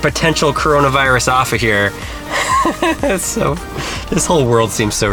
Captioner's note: laughs